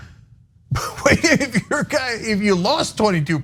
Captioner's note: laugh